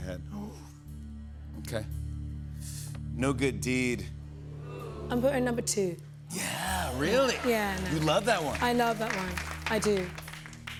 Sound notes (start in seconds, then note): 3.8 audience oohs; 9.8 applause